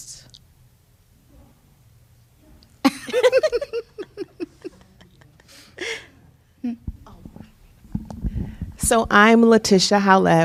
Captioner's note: laughter